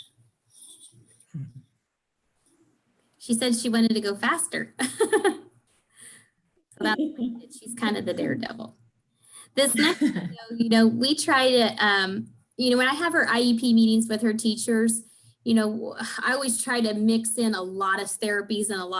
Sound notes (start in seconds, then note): 4.8 laughs